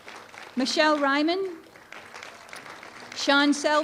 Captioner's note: applause